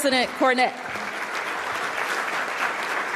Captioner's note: applause